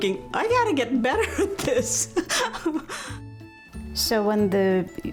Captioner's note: softly laughs